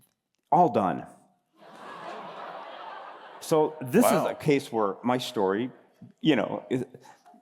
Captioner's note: laughter